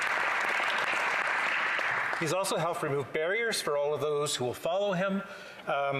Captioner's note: applause